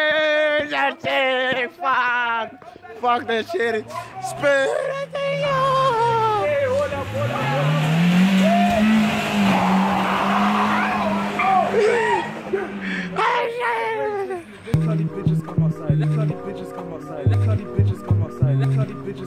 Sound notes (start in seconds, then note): 13.0 excitement